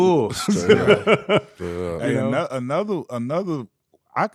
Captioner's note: laughing